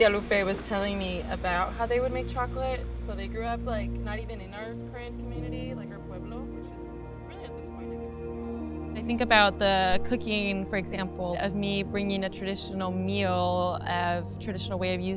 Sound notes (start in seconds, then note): 7.7 voice fading out